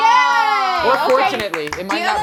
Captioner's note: overlapping chatter